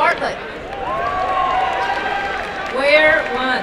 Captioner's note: applause and cheering